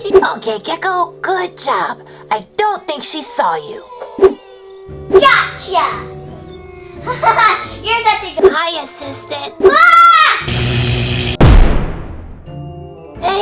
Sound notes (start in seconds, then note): 9.6 screams; 11.1 electrical zap